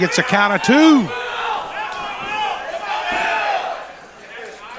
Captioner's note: crowd jeering